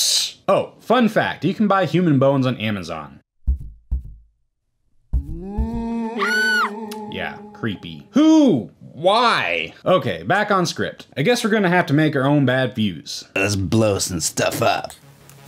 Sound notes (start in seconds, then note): 3.4 heart beating; 5.2 ghost howling; 5.3 girl screaming